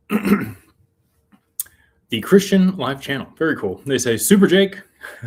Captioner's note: clears throat